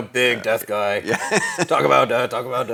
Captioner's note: laughs